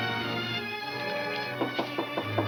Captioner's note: knocking on door